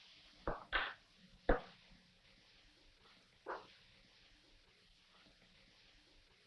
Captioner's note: none